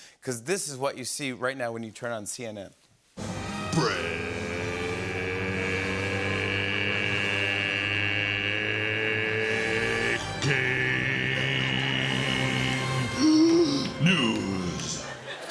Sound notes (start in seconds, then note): 13.0 breathes deeply